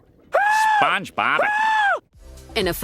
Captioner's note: SpongeBob screaming